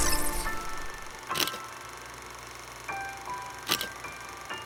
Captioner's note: graphics click